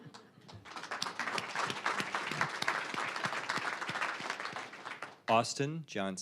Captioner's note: audience laughing; applause